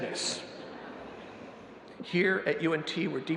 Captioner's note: audience laughing